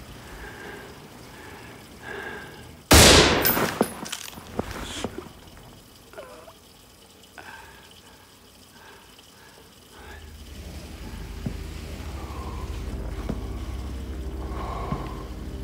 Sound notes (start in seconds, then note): 2.9 booming